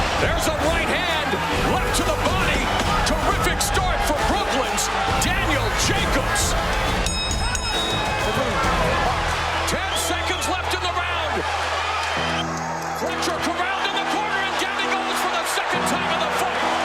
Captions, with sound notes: There's a right hand. Left to the body. Terrific start from Brooklyn's Daniel Jacobs! (BELL RINGS) Ten seconds left in the round. Fletcher corralled in the corner and down he goes for the second time in the fight.